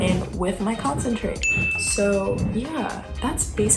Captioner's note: chime